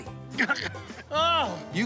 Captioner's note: groaning